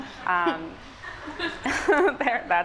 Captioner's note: laughs